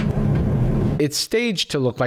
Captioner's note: white noise